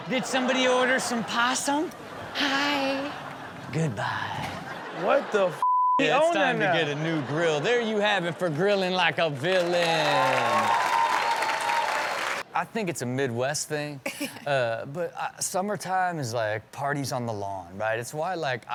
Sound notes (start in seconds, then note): 9.8 audience cheers; 14.0 laughs